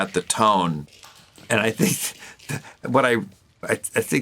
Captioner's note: chuckles